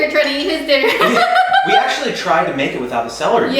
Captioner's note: woman laughs